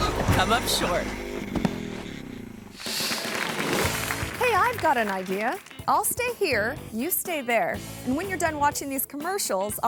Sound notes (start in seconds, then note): 0.0 motorbike thuds; 0.0 thuds; 2.8 audience applauding